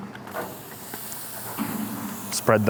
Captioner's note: food sizzling